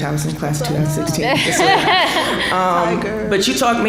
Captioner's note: laughing